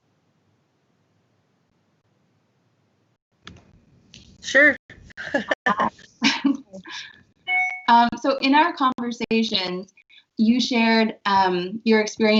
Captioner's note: laughter